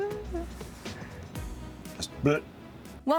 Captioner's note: humming